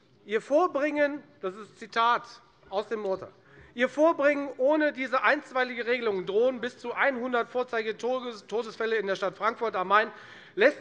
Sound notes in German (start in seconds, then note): none